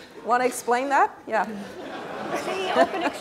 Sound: laugh

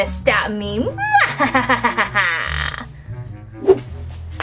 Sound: laughs wickedly

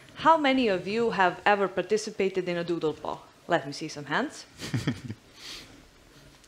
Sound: chuckles

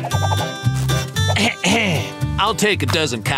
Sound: clearing throat

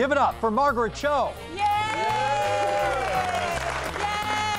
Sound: cheers and applause

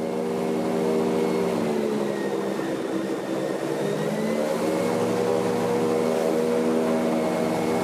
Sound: boat fan winds down

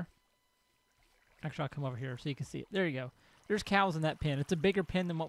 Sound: running water

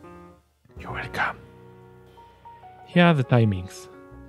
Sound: whispering

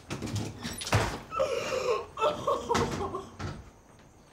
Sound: cries

